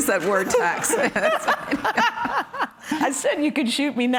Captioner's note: laughing